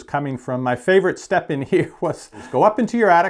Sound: laughs

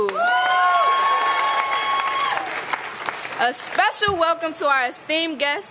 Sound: applause

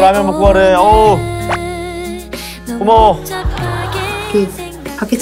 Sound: sob

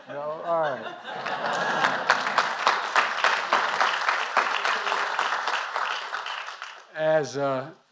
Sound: applause

